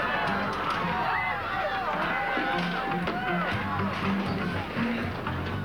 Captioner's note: Cris et brouhaha